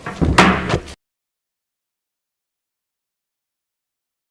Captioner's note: loud bang